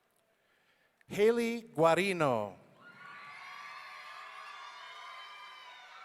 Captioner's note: audience cheering